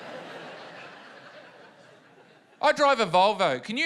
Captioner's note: laughter